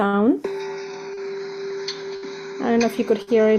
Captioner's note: bell chime